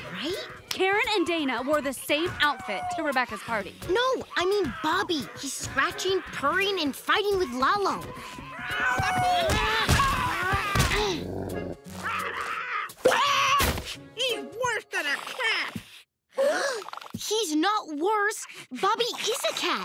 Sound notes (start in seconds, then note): 12.0 Sergio screaming; 16.4 gasps